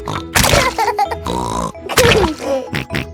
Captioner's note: laughs and snorts